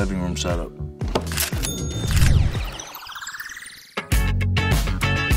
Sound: ka-ching; upbeat music

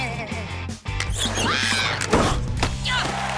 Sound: laughing; screaming; cheering

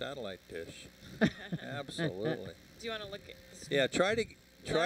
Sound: laughter

